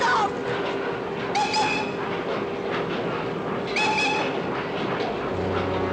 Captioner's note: blows Whistle